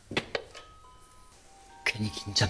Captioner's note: ding-dong